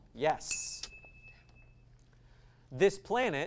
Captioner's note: ding